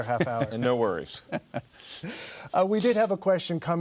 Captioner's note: laughing